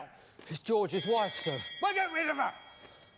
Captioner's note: bell ringing